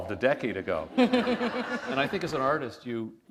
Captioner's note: laughter